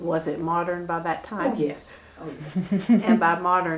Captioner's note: laughter